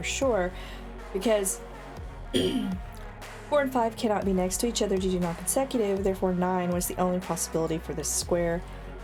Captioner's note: clears throat